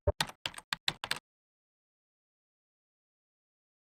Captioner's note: keyboard typing